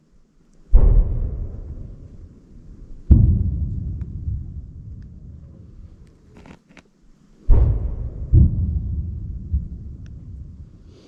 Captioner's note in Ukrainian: звуки стрільби